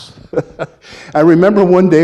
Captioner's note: laughing